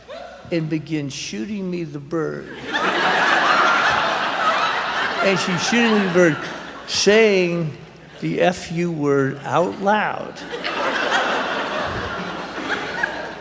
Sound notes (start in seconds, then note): 2.4 laughter; 9.4 laughter